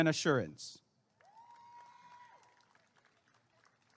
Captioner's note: applause and cheering